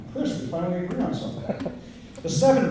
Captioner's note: laughter